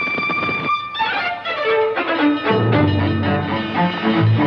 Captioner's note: sirens Wailing, Bells Clanging